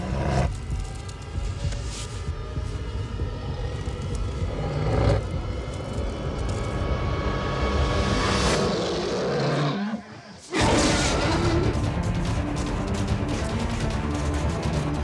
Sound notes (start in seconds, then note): 0.2 animal grunts; 8.9 animal roaring; 10.5 action music